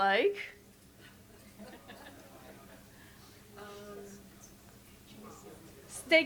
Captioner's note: audience giggles and chatters